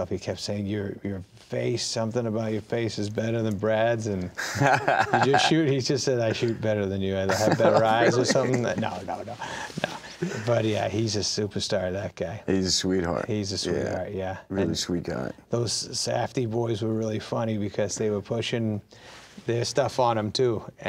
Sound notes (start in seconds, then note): 4.4 laughing